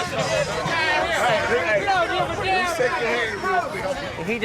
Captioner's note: chatter